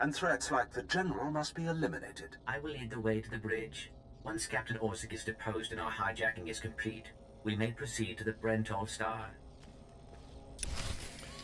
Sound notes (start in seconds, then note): 3.2 door opens